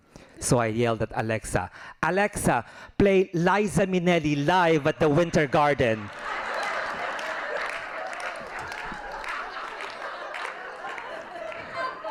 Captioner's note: laughing